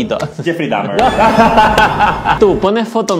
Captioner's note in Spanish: risas